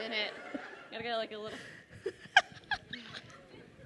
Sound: laughing

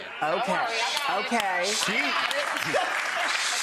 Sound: audience clapping

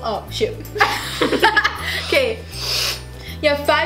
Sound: laughing

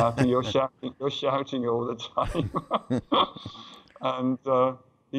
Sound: laughter

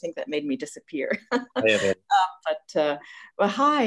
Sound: laughs

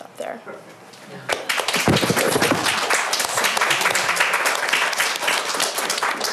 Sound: applause

